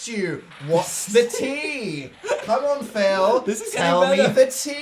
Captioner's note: laughing